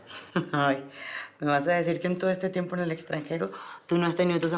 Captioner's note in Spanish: Riendo